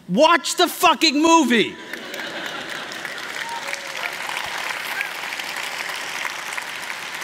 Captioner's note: applause